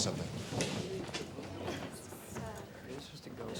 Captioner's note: students murmuring